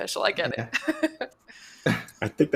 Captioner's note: chuckling